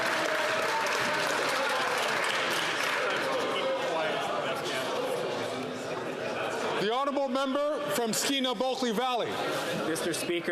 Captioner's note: some Applause